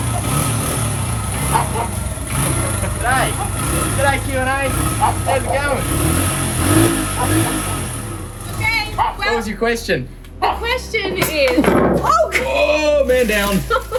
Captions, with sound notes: G’day- G'day Q&A, how's it going? [loudly revving motorbike] Okay. What was your question? The question is. Oh, man down.